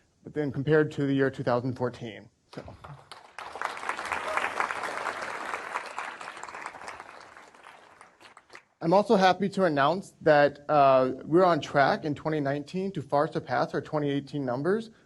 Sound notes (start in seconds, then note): 6.2 applause